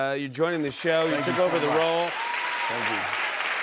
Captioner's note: cheers and applause